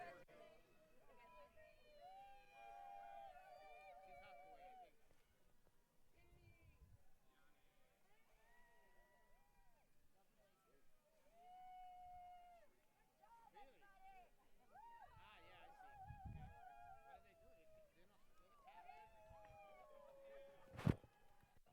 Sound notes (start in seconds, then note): 3.0 family cheers; 11.2 family members cheering; 13.8 family member shouts indistinctly; 16.4 family members hollering